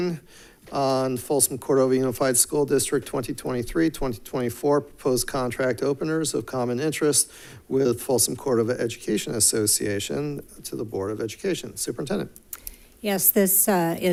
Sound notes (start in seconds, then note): none